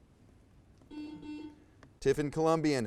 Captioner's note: buzzer buzzes